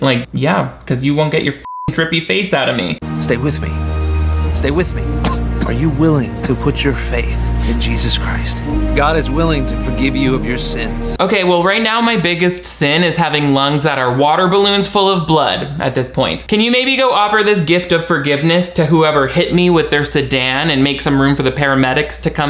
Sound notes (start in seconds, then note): 1.6 beep; 4.4 somber instrumental music; 5.1 Robert coughs